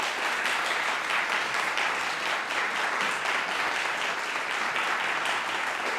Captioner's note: audience applauding